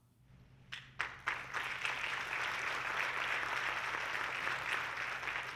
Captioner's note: audience clapping